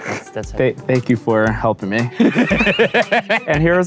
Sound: laughing

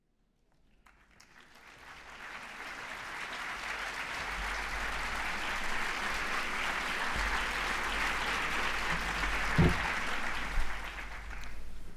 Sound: applause

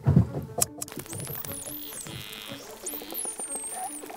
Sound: dolphins clicking

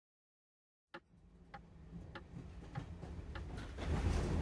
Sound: clock ticks

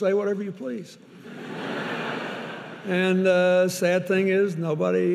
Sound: audience laughing

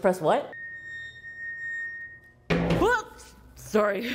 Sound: elevator beeps; elevator bangs

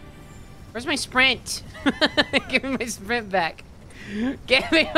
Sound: laughing

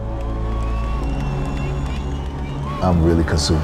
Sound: audience cheering happily

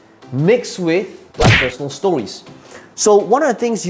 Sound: fist punching

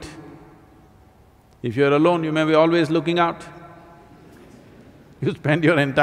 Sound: laughs

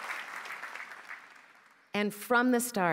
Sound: applause

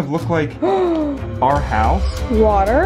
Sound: gasps

